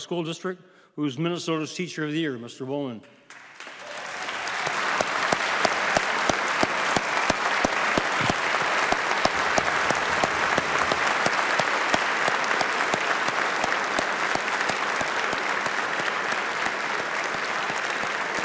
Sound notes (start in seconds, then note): 16.6 applause